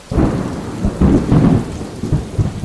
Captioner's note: thunder